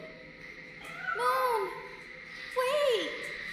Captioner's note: Moon meowing